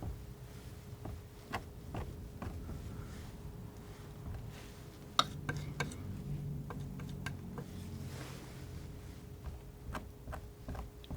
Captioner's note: scratching